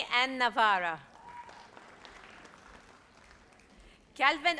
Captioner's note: audience applauds